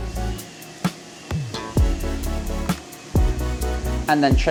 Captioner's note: tools whirring